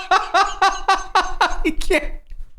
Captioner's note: laughter